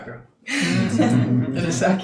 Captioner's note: laughing